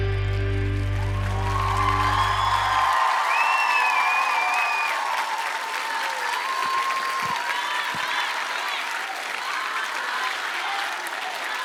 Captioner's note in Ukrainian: оплески